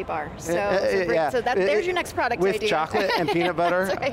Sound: laughs

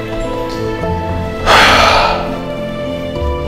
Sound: sigh

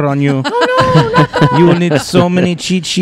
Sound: laugh

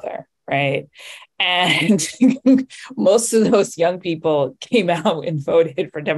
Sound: chuckles

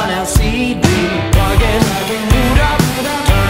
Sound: boot up

